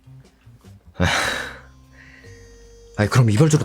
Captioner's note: sigh